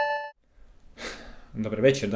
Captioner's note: gasp